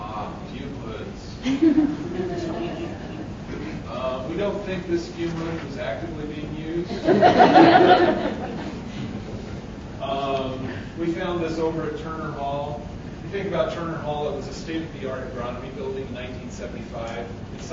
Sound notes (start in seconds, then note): 1.4 audience laughing